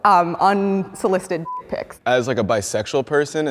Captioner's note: beep